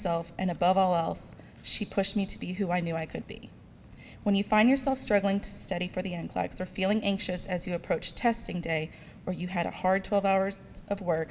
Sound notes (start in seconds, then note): none